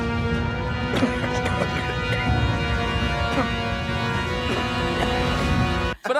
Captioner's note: coughing